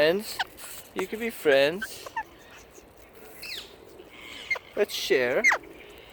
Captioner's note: parrots squawking